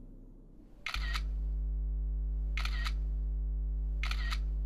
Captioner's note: digital clicking